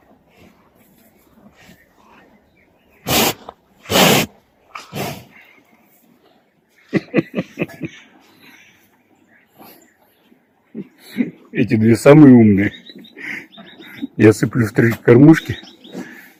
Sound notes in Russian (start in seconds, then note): 1.3 смех